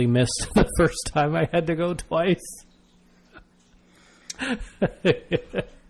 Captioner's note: DJ laughs